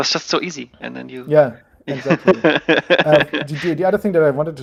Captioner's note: chuckling